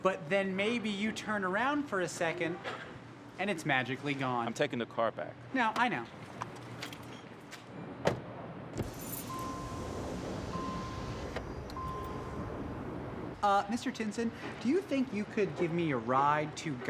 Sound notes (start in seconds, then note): 8.0 car door bangs; 8.8 window whirring